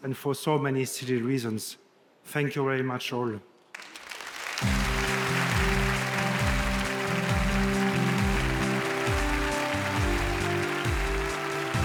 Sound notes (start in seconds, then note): 3.7 audience applauding; 4.6 wondrous music